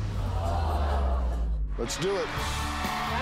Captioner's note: audience gasps